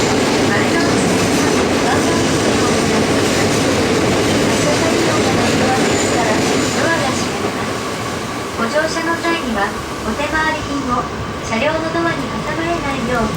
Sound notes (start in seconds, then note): 5.1 train